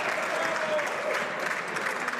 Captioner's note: some Applause